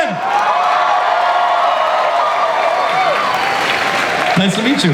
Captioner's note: audience cheers